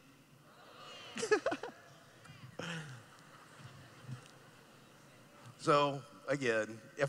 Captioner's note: laughing